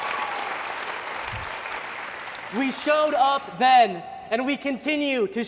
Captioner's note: cheers and applause